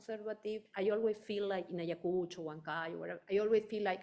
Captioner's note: speaking in foreign language